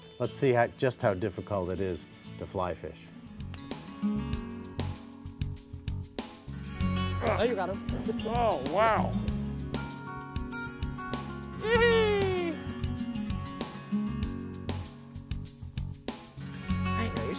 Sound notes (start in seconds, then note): 3.9 acoustic guitar music; 11.6 joyful yell